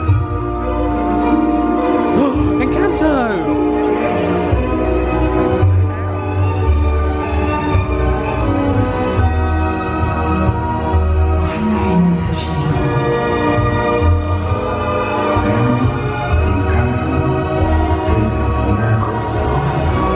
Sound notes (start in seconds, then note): 2.1 gasps; 4.5 playful dramatic music; 11.9 gentle dramatic music